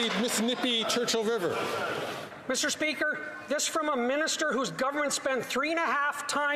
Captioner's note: some Applause